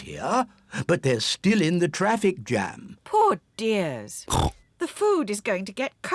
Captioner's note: snorts